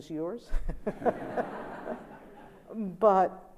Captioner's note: laughter